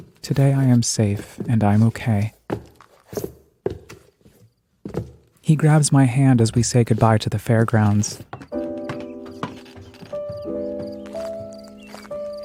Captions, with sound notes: Today, I am safe and I'm okay. (footsteps echo) He grabs my hand as we say goodbye to the fairgrounds. (gentle piano music)